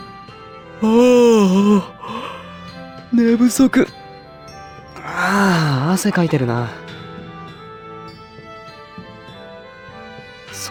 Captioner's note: yawn